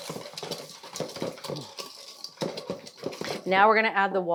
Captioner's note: bowl clanking